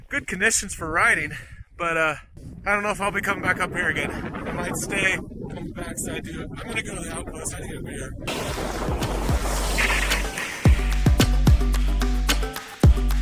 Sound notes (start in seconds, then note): 4.6 wind drains out speaker's voice; 8.4 upbeat music